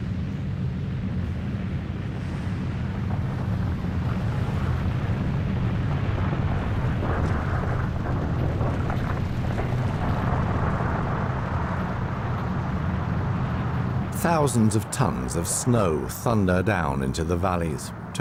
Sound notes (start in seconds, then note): 6.2 rumbling, cracking